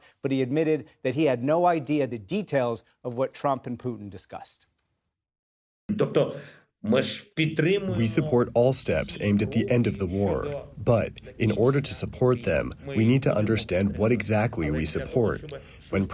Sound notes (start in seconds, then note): 6.7 through translator